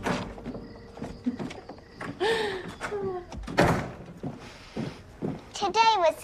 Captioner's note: laughs